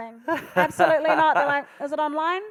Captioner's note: laughing